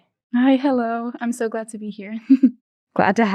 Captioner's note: chuckling